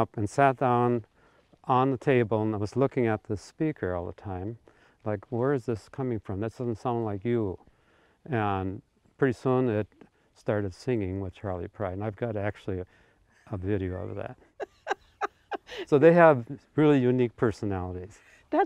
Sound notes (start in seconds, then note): 14.6 laughing; 18.0 chuckles